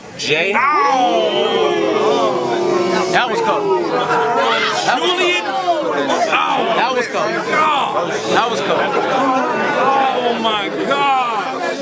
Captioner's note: crowd Reaction